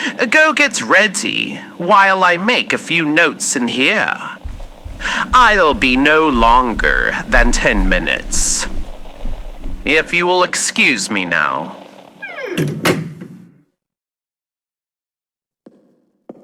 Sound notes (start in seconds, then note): 11.8 Alastor closes door fx